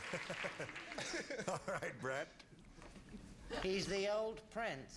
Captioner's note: laughing